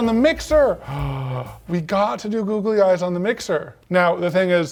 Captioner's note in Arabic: لهث